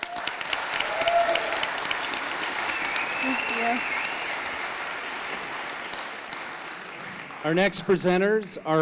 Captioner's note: audience applauding